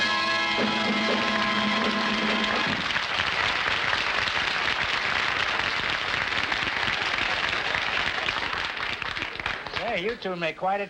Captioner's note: applause